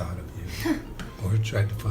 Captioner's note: Allison sighs